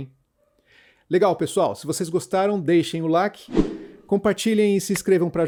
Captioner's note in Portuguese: som de whoosh